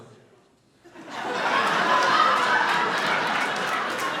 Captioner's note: audience laughing